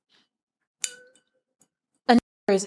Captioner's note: glass clinks